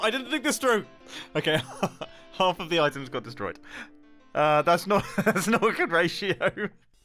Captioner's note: laughs